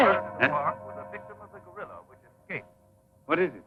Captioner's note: announcer on Radio